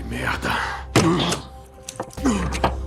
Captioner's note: grunting